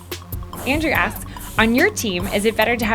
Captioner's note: voiceover